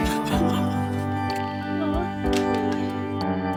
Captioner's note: sobs